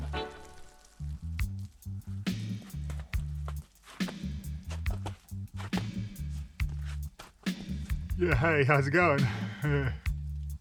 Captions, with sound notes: (footsteps crunching in the snow) Yeah hey, how's it going? Huh!.